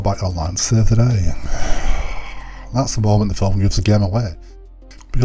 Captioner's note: sigh